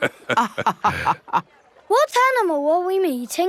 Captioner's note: both laughing